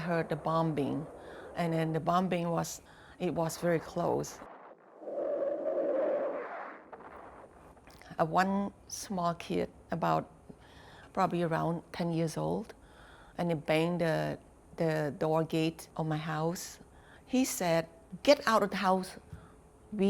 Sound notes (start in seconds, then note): 4.4 airplane flying